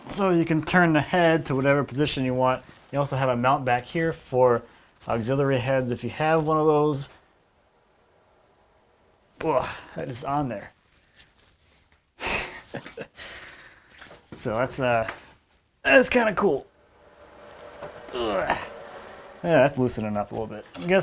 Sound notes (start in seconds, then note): 9.6 grunts; 12.2 chuckles; 17.5 grunts